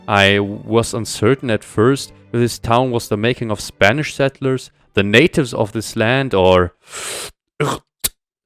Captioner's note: disgust